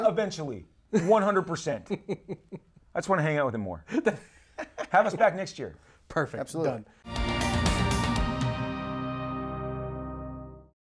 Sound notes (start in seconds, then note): 2.1 laughs; 7.0 dynamic electronic music